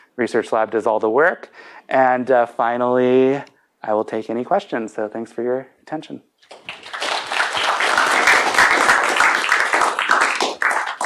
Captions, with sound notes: Research lab does all the work. And finally, I will take any questions. So thanks for your attention. [APPLAUSE]